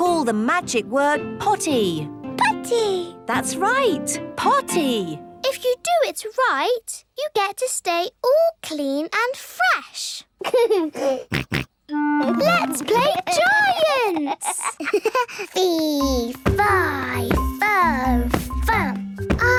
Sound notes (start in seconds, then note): 10.4 giggles, snorts; 13.8 giggles